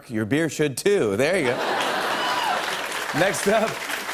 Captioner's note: laughter and applause